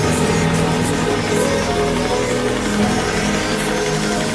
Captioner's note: splashing water echo sounds